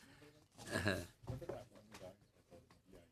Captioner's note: laughter